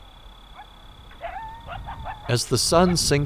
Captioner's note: coyotes howl in distance